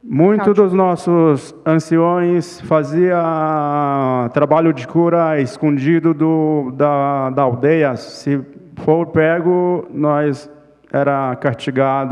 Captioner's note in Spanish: Ponente habla en portugués